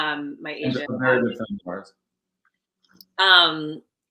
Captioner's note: microphone distorts